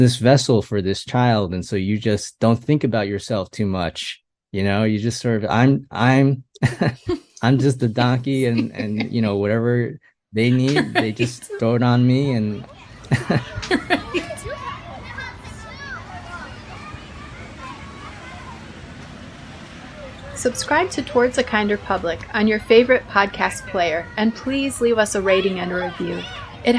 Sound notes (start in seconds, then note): 16.7 sounds of a busy neighborhood playground in Queens fade in to background